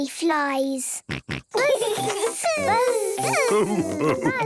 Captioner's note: both buzzing